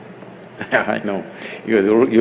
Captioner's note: laughs